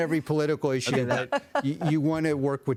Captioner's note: laughter